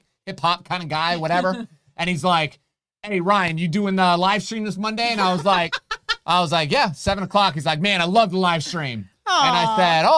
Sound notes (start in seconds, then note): 5.1 laughing